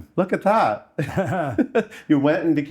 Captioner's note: both laugh